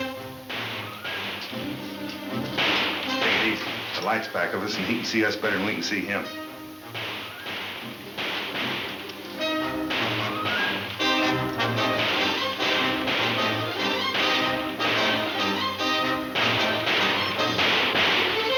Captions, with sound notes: - Let's take it easy. The lights back. Now, listen, he can see us better than we can see him. (guns banging) (dramatic music)